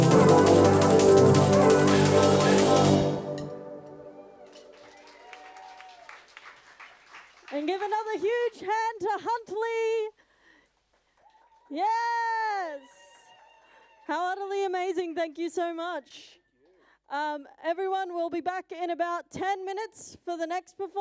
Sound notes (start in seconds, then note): 8.4 applause